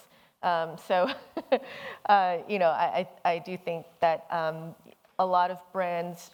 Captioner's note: chuckles